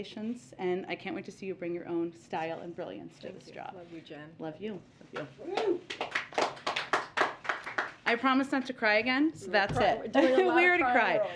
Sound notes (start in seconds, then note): 5.5 applause